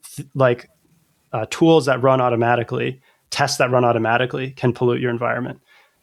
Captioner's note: uh